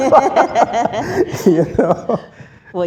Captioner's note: laughs